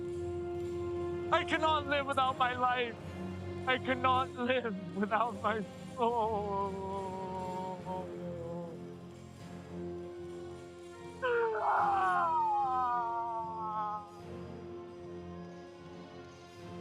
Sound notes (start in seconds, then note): 6.1 sobs; 11.2 screaming; 13.6 soft dramatic music